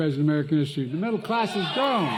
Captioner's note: cheering